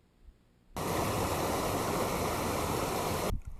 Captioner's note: sound of a creek